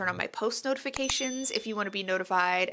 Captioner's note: bell rings